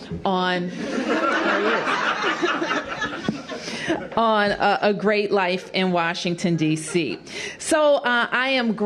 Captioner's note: laughter